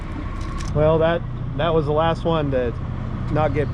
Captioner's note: boat engine idling